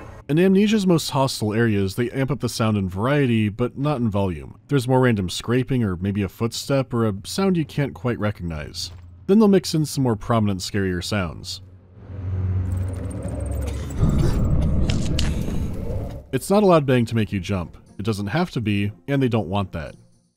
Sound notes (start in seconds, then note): 12.4 scurrying of mice; 13.5 stifled coughing